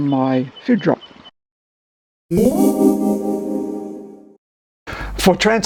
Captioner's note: ethereal zing - Transport